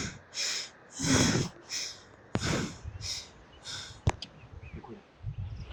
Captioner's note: deep breathing